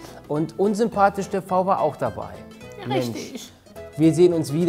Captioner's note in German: piepsend